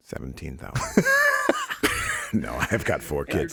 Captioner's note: laughs